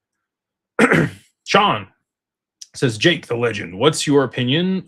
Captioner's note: clears throat and cough